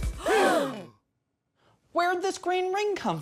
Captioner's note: band gasps